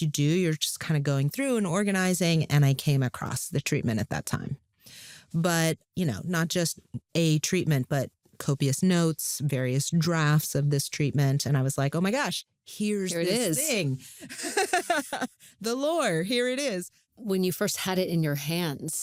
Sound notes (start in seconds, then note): 14.2 laughs